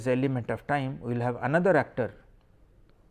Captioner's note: click